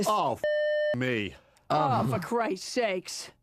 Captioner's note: beep